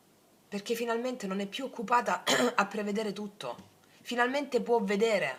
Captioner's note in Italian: schiarire la voce